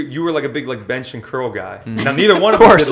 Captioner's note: laughter